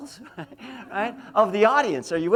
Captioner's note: laughs